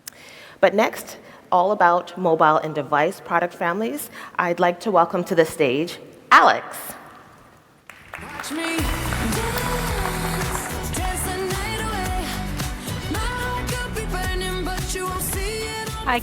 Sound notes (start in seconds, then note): 7.8 audience applauds; 8.1 upbeat music